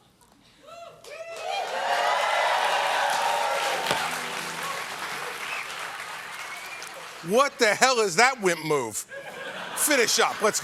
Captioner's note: cheers and applause